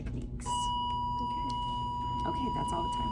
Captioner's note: loud beep